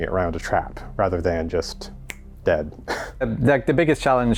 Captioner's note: snap